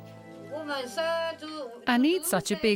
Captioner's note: speaking in foreign language